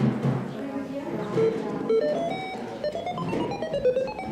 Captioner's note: computer pinging